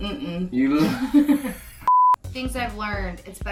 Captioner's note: laughing